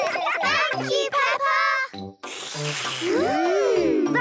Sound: all slurping

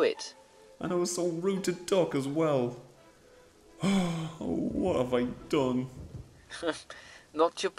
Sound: sighs

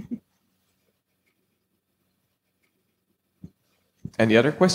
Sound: laughing

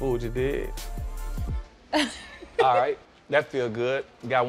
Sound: chuckles

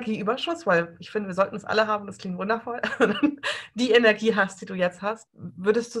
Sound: laughs

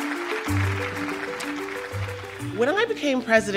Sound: audience clapping

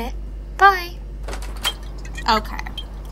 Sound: door opens

